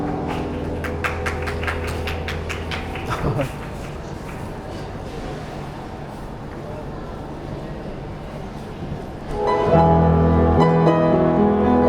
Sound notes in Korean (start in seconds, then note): 0.0 뒤에서 들어주던 대학생들의 박수; 2.7 짝짝짝짝짝~